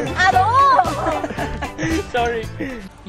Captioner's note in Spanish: Risas